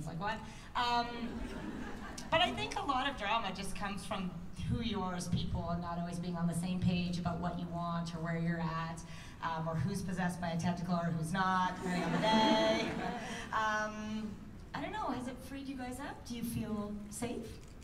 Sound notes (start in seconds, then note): 1.2 laughter; 11.8 laughter